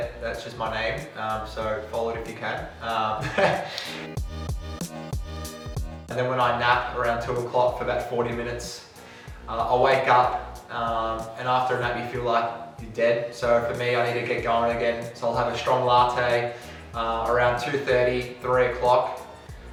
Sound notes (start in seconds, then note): 3.2 laughs; 3.3 gentle music